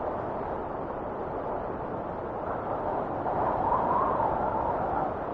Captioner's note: wind whistling continues